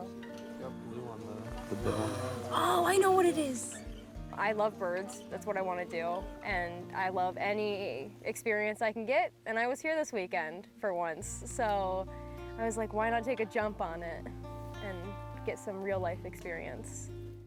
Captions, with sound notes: -You got blue one there. -(person gasping) Oh, I know what it is. I love birds. That's what I wanna do, and I love any experience I can get. And I was here this weekend for once, so I was like, why not take a jump on it and get some real life experience.